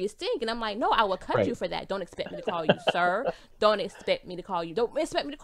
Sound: laughs

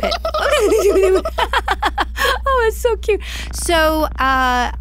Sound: laughs

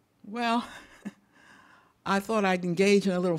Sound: chuckles

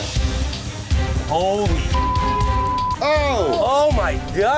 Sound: beep

